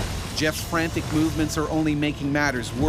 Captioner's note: voiceover